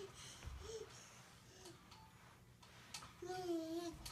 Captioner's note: cooing